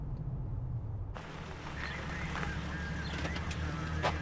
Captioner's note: radio dispatch chatter